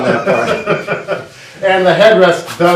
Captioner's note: laughs